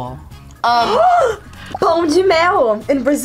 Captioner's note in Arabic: تلهث